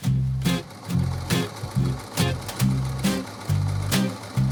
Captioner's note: sewing machine whirring